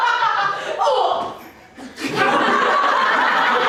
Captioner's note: loud roughhousing offstage